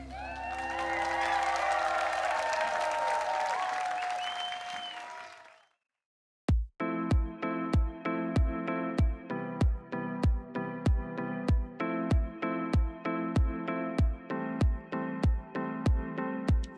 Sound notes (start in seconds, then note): 2.5 cheering and Applause